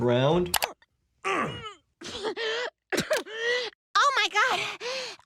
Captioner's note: Jerome grunts, Lois coughs